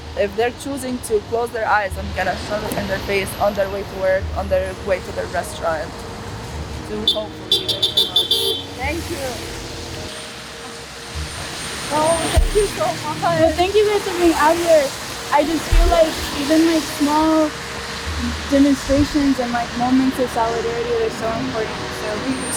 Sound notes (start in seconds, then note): 6.9 car beeps